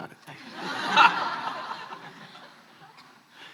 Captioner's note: laughs